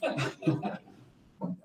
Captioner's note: laughter